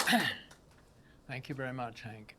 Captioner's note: clears throat